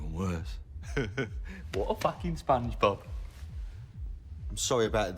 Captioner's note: chuckles